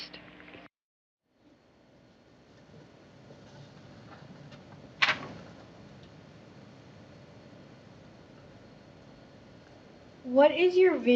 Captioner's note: silence